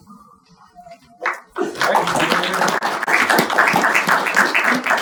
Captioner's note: audience applauding